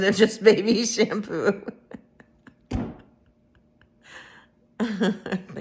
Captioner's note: laughing